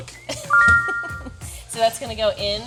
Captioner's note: text chiming brightly; laughing